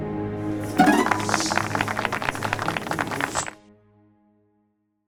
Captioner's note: applause